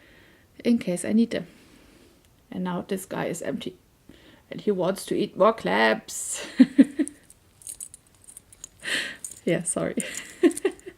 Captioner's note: laughs